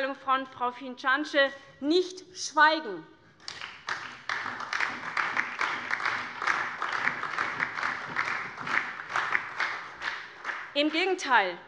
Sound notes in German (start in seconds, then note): 3.4 Beifall SPD, DIE LINKE, vereinzelt CDU und BÜNDNIS 90/DIE GRÜNEN